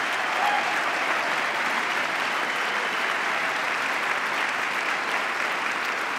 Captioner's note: applause